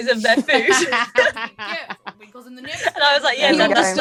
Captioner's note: laughs